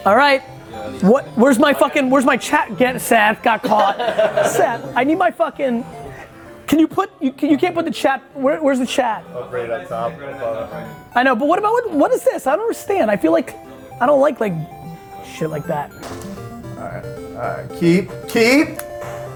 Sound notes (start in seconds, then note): 3.5 laughs; 16.5 8 bit music